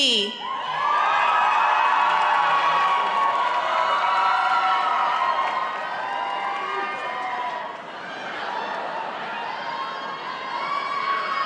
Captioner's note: applause